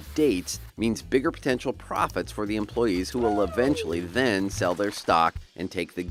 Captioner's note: pile of cash falling